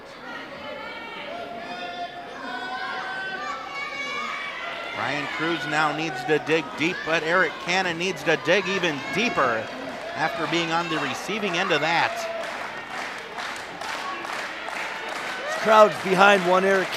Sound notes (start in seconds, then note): 1.9 audience shouting